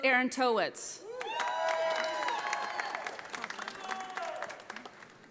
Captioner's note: audience applauding